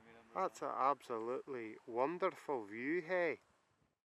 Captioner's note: in a terrible Scottish accent